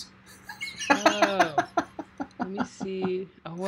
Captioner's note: laughing